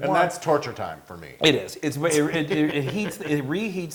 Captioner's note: laugh